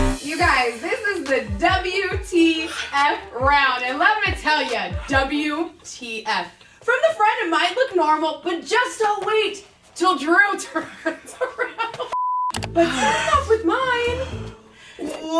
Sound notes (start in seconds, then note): 12.1 beep; 12.7 laughing